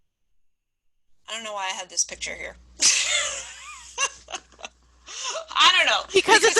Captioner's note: laughing